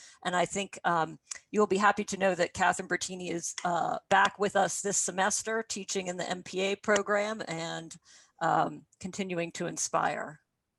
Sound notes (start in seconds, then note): none